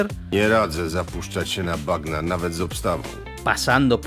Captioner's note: speaks in Polish